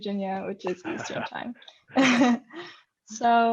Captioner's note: laughs